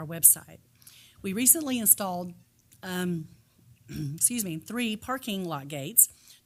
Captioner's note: coughs